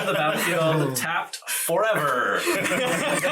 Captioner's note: all laugh